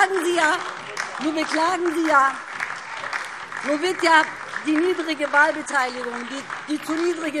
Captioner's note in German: Beifall DIE LINKE, vereinzelt SPD und Freie Demokraten